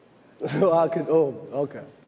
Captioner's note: Chris mumbling